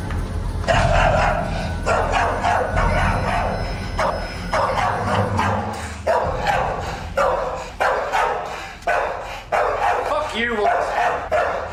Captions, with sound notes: (dog barking) - What the fuck you want?